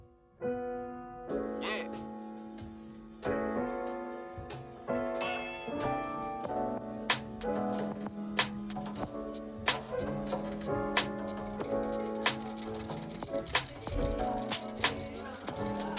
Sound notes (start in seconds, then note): 0.2 relaxed chill-out music; 10.3 whisking